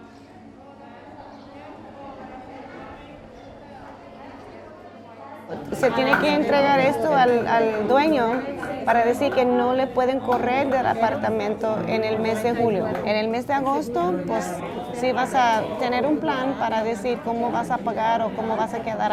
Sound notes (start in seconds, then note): 5.5 Spanish